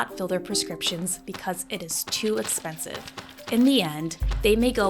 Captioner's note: bills thudding